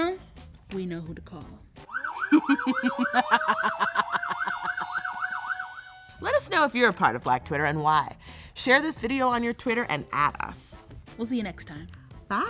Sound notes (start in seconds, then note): 1.8 sirens wailing; 2.2 cackles